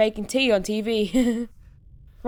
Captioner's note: chuckles